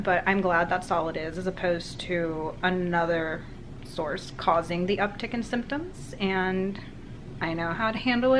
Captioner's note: none